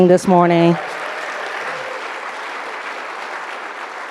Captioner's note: audience applauding